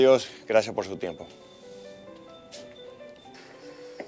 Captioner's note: bell Ringing; footsteps